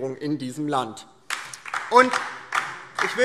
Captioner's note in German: Beifall